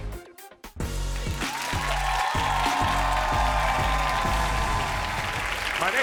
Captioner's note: upbeat music; audience cheering